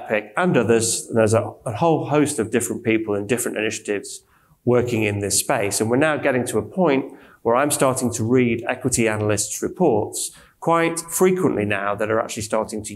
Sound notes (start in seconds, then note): none